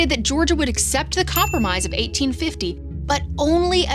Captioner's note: bell dings